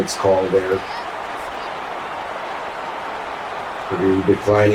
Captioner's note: crowd Noises